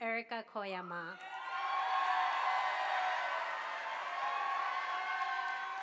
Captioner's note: audience applauding